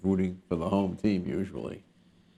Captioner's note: none